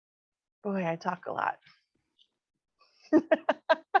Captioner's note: laughs